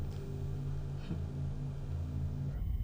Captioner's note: soft chuckles